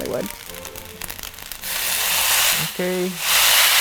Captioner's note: dish sizzling